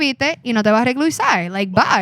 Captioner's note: non-english Speech